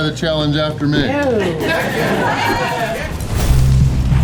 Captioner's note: crowd laughter